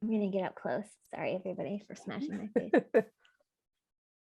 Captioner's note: laughter